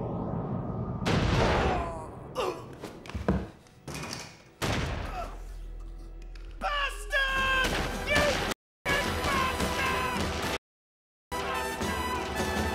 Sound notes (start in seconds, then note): 1.7 groans; 4.6 thud